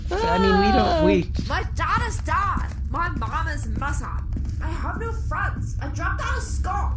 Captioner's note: typing furiously